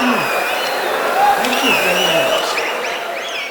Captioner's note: wild applause and cheering for 22 seconds